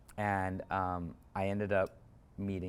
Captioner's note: none